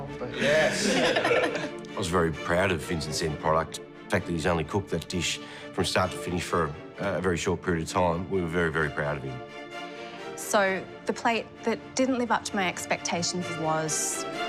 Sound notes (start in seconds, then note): 0.4 laughter